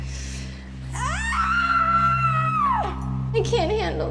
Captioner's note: screams